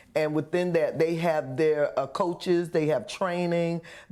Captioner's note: none